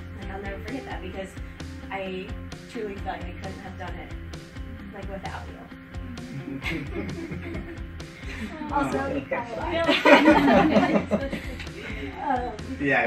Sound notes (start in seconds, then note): 7.0 tears in joy; 9.8 all laughs